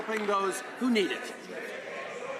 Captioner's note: applause